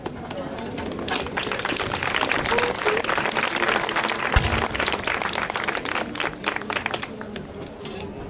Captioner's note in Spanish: aplausos; chocan las espadas